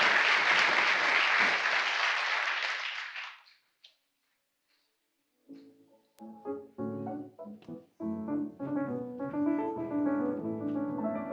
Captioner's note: applause